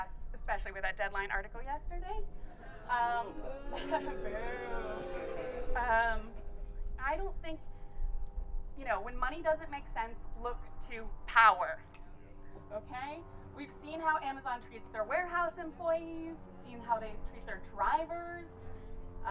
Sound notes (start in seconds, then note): 2.5 crowd booing